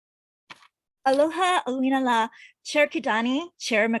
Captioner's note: speaks in a foreign language